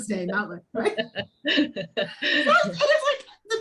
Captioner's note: people laughing